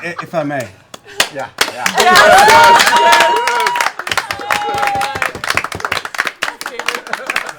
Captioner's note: cheering